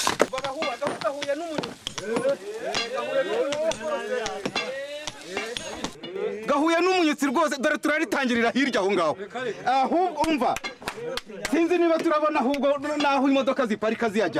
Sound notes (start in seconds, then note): 2.2 cri de joie